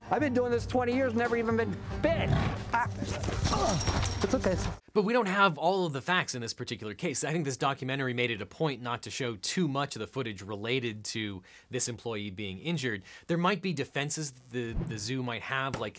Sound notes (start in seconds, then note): 2.2 tiger growls; 3.4 chain link rattles; 4.3 man grunts